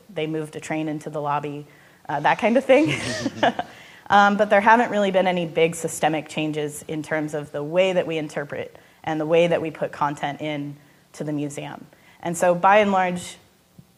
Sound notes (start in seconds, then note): 2.7 all laughing